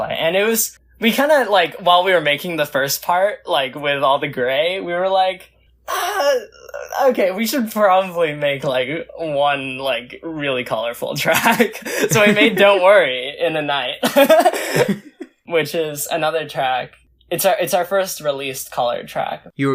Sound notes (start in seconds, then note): 11.4 laughs; 14.0 both laugh; 14.0 laughs